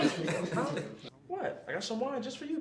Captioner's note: group laugh